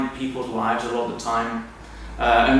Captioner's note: none